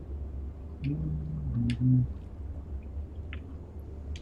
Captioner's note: humming